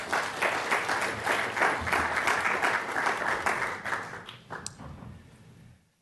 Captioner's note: applause